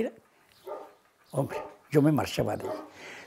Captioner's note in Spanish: Sonido- Ladridos continuos